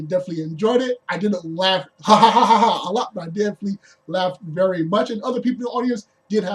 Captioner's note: boastful laughing